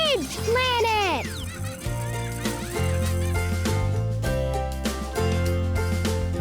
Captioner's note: children laughing